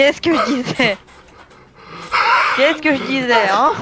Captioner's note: laugh